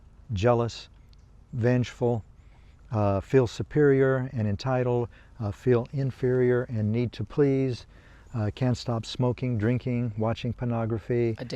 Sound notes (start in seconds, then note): none